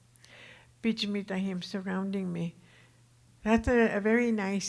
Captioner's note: speaking Tohono O'odham